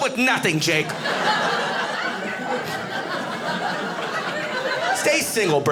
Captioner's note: audience laughing